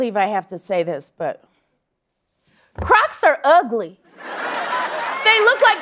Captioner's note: laughter